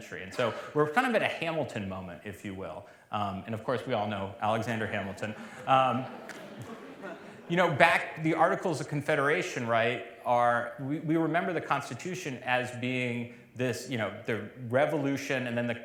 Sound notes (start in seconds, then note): 4.7 laughter